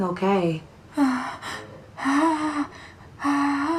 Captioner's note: Gina whimpering